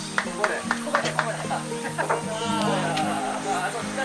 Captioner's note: applause